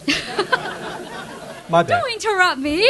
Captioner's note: audience laughs